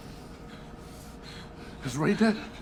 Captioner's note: panting